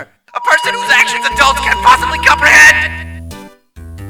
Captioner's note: megaphone blaring